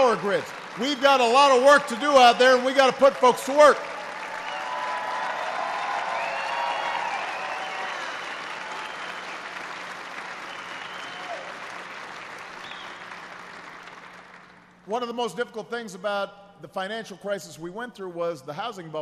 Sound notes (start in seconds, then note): 11.2 applause